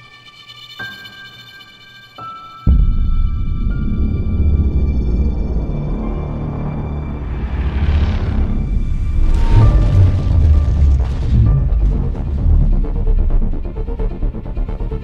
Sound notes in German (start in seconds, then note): 9.1 mechanische Geräusche